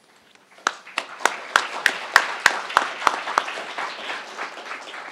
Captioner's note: crowd applauding